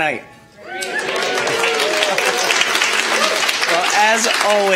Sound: attendees applauding

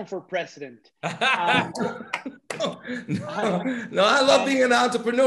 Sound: laugh

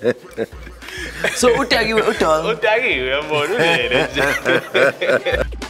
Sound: all laughing; group speaking in foreign language

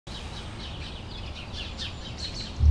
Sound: bird chatter

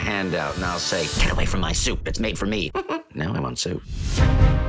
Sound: giggle

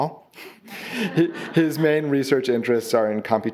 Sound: audience laughing

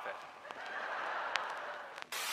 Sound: crowd laughter

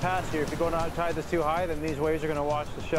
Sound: voiceover; voiceover

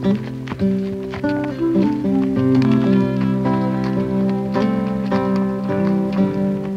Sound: horses, trotting on path; sweet acoustic guitar music continues

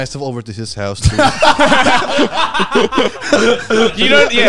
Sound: all laughing

